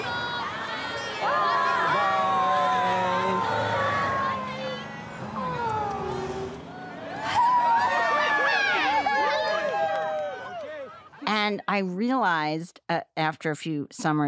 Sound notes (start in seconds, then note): 1.1 kids saying goodbye; 6.6 parents cheer